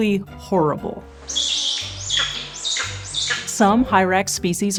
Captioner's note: hyrax Noises